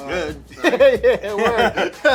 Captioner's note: laughing